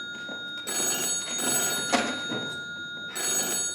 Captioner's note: phone continues ringing